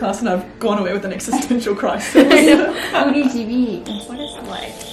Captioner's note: speaks in Korean